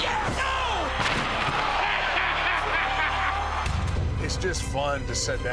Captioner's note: sportscaster exclaims